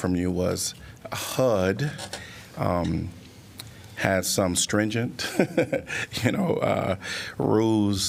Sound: laughter

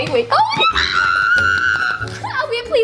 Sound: screaming

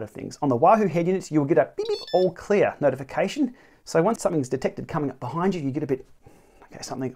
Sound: alert

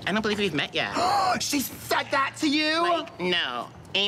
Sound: gasps

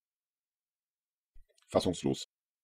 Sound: fast Pronunciation

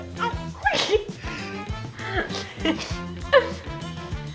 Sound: laughs

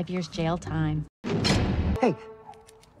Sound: prison doors shut

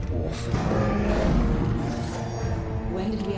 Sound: bear growling

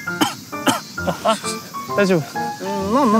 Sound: cough

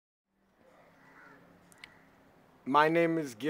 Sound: birds squawk

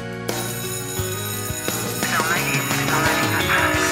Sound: alarm blares

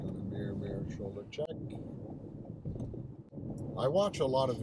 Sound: engine hums

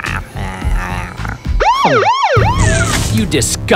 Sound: sirens

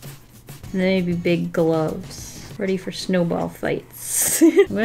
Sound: giggles

